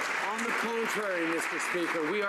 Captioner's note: some Applause